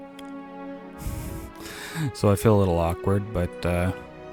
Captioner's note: nervous laughter